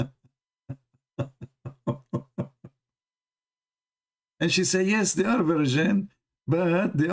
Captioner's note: Ketawa